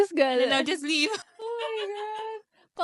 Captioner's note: both laughing